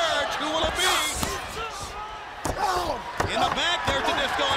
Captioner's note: crowd cheering